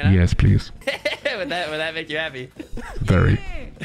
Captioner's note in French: rire